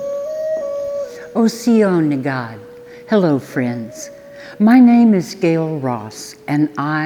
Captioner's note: speaks Cherokee